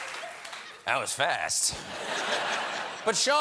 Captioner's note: laughter